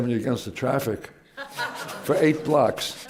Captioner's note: laughter